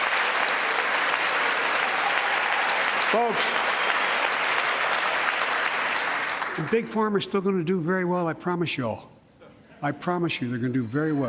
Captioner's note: applause